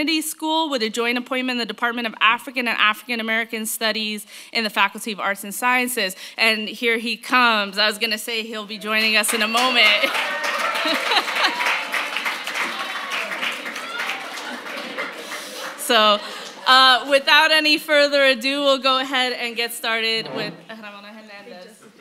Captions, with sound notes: NASH ENDOWED CHAIR IN U.S. HISTORY AT UCLA. AFTER ROBIN, WE HAVE KEISH KIM, A FOURTH YEAR PhD STUDENT HERE IN AMERICAN STUDIES AT HARVARD. [ APPLAUSE ] AND FOLLOWING -- YES, I'M LIKE THIS -- WE'RE HERE FOR THE GRAD STUDENTS FOR SURE.